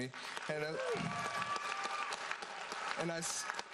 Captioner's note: audience applauds